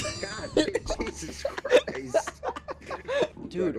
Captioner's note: laughing